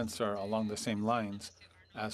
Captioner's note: speaking French